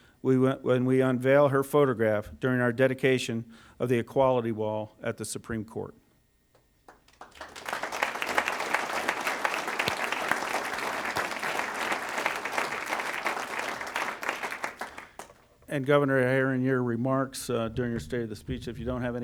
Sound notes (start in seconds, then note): 7.1 applause